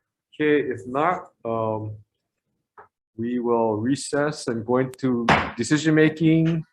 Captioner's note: gavel banging